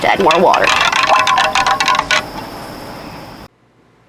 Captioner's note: stir stir clink clink